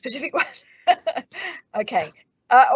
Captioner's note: laughs